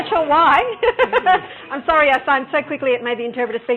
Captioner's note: laughing